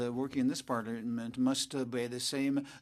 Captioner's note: speaking French